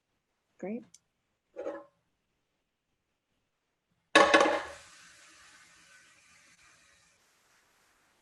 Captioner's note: silence